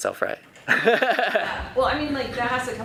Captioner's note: laughing